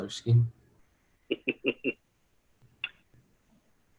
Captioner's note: laughs